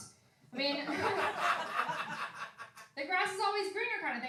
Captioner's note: laughing